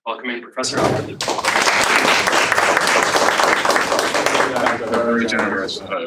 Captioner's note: applause